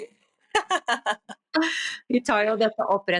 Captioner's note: laughter